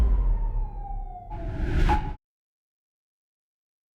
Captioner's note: siren wailing